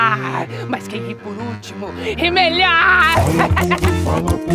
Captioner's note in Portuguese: riso sarcástico